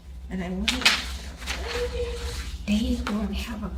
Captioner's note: murmurs